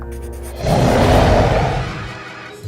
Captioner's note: roars